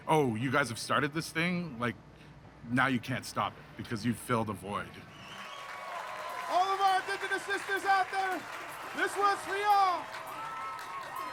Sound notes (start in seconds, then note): 5.1 crowd cheering and applauding